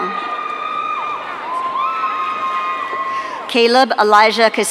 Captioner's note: audience cheering